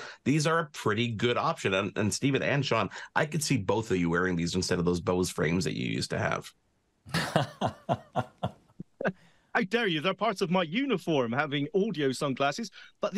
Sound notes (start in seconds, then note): 7.1 laughs